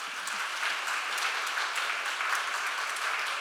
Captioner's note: audience applauding